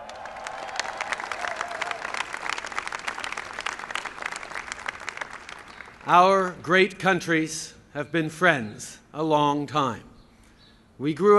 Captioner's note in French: Acclamations et applaudissements